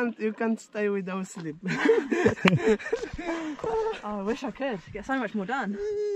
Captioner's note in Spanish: La risa